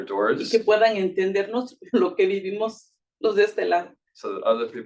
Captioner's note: speaking Spanish